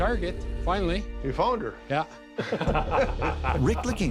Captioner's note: chuckles